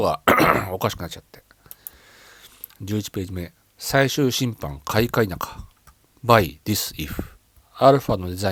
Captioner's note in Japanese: 咳払い